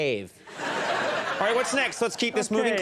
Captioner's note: audience laughs